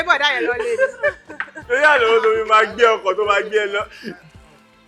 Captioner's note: everyone laughs